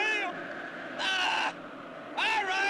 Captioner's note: frustrated yell